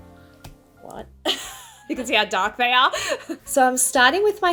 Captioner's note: laughs